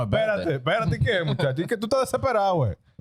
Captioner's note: speaking In Foreign Language